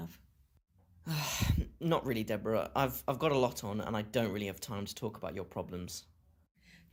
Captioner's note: sighs